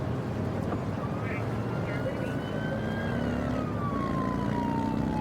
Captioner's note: siren blaring